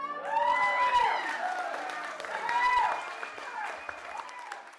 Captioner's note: cheering